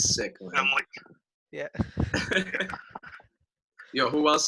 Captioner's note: laughing